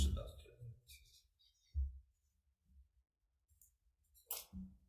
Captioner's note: papers shuffling